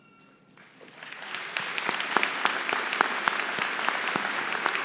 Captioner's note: applause